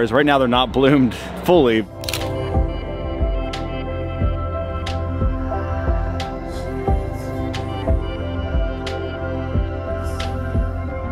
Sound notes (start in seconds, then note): 0.6 dramatic music; 2.0 shutter clicking